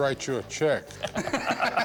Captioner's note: laughs